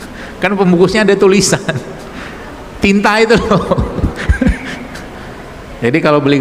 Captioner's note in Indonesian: tertawa